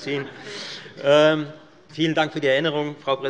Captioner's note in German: Allgemeine Heiterkeit